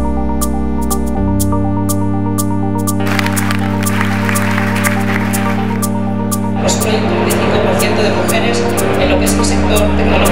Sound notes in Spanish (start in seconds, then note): 3.0 Aplausos